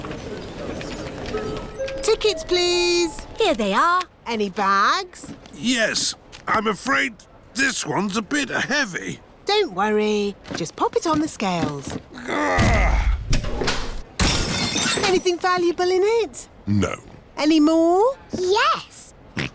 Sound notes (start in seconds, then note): 12.1 grunts; 14.2 crashes